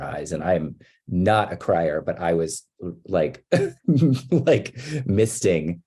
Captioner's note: laughs